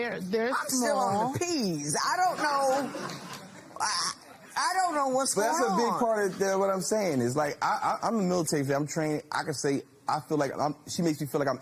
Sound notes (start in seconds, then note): 2.3 laughter